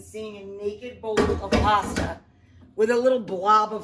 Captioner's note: pan clatters